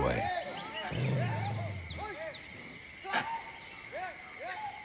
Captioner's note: men shouting